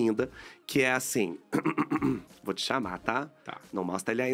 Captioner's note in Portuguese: pigarreia